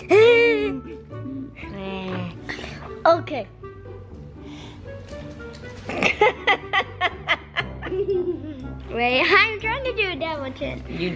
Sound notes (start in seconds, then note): 5.8 laughing